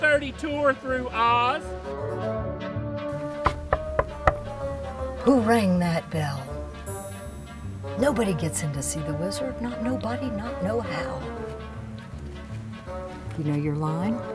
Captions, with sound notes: 11:30 tour through Oz. [chaotic, upbeat music] [knocking] - Who rang that bell? Nobody gets in to see the wizard. Not nobody, not no how. [chaotic, upbeat music]